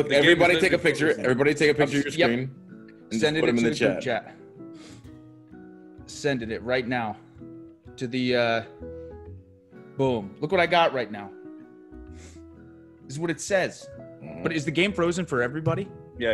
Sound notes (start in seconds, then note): none